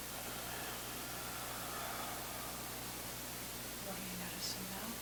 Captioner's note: exhaling